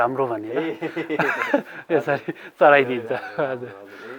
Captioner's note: laughter